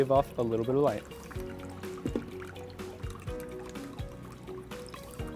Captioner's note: liquid pouring